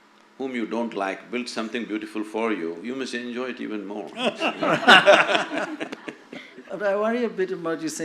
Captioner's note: laughter